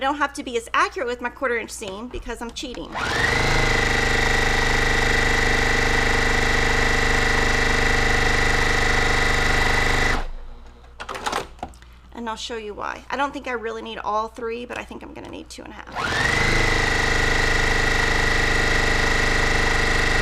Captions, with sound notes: And I don't have to be as accurate with my 1/4 inch seam because I'm cheating. (sewing machine whirring) And I'll show you why. I don't think I really need all three, but I think I'm going to need 2 1/2. (sewing machine whirring)